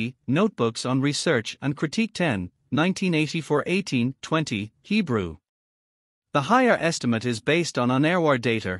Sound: Hebrew

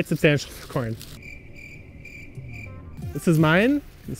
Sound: cricket noises

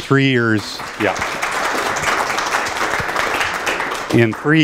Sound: applause

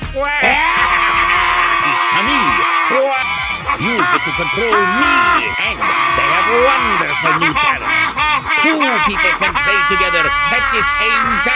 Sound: wario laughing

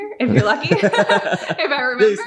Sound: laughing

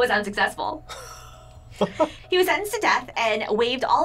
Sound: chuckles

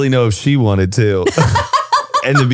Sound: laughs

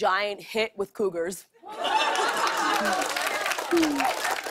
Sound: laughter and applause

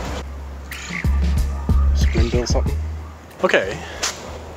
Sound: birds tweeting

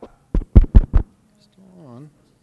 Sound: speaker speaking faintly; microphone thumping

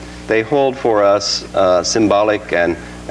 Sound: none

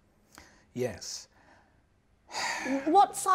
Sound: sighs

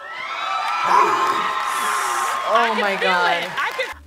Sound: gasps; crowd screams; both gasp

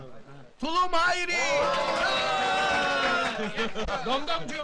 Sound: shouts of applauses, cheers

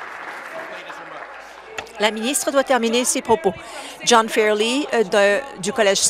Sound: applause

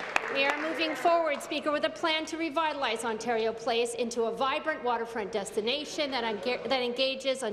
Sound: applause

